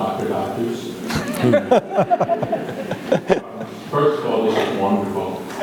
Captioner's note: all laugh